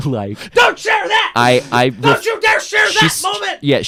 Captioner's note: shouting